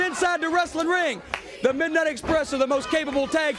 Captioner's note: crowd cheering